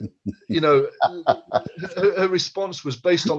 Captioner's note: laughs